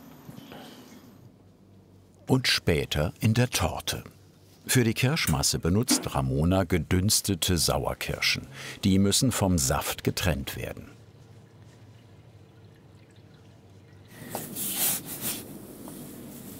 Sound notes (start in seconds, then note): 14.2 trickling noises